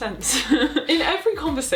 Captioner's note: chuckles